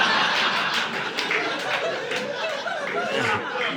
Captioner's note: audience laughing